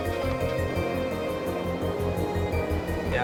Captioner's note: none